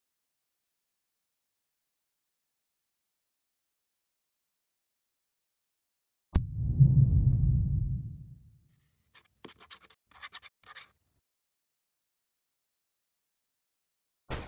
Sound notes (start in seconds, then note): 9.1 pen scratching paper